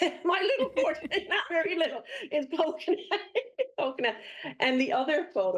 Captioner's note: laughs